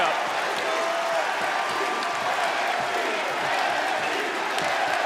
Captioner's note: crowd cheering